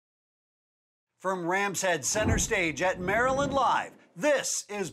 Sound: voiceover

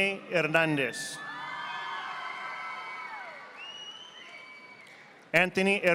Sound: audience applauding

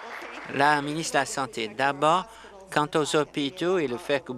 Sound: applause

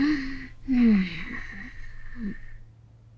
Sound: snoring

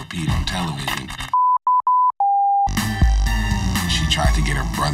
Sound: beep

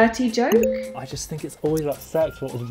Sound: bell dinging

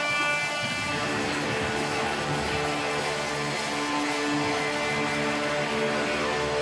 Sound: cheers, whistles, & applause

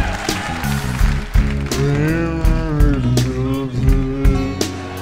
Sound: audience laughing; mumbling

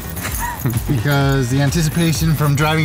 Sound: interviewer laughs

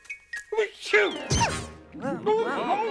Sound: sneezes

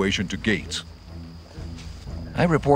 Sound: American accent

